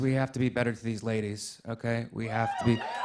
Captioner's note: cheering